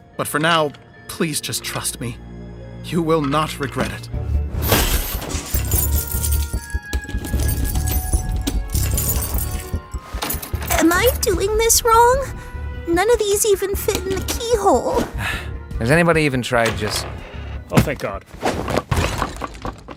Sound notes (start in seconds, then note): 4.9 keys jingling; 6.7 curious music plays; 15.1 scoffs